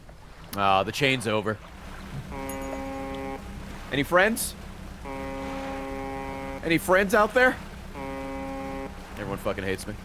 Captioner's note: honk